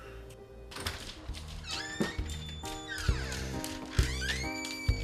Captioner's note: door creaking; upbeat music